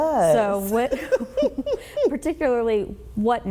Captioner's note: chuckling